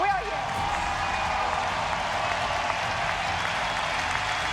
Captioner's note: crowd roaring